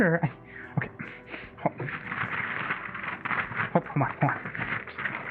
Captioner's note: rustling papers